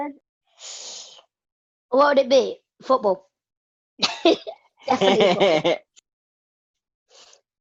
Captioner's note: laughs